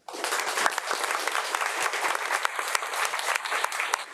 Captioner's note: audience applauds